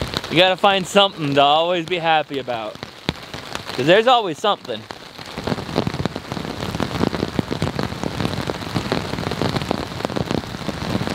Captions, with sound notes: Gotta find somethin' to always be happy about. 'Cause there's always something! (rain pouring)